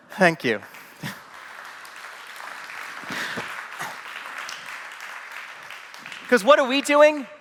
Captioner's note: applause